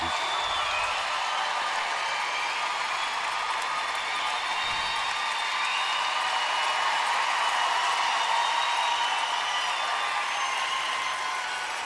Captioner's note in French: acclamations